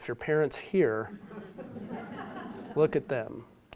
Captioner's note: audience laughs